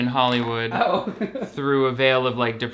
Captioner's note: laughs